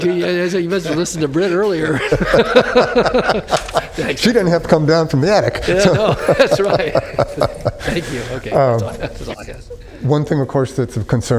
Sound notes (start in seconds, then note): 5.4 laughter